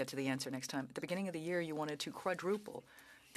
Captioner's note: speaking French